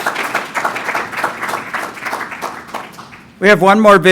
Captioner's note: applause